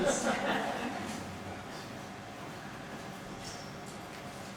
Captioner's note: audience laughing